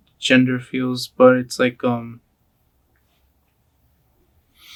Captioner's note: breathes deeply